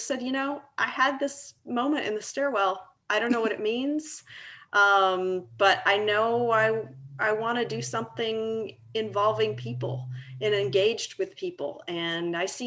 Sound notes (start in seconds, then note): 3.4 laughing